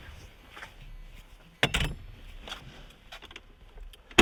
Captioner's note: sexy clunck